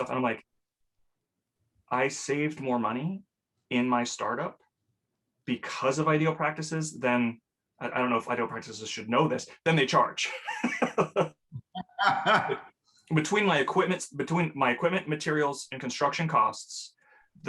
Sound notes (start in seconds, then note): 11.5 laughs